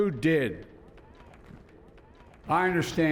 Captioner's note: cheering and applause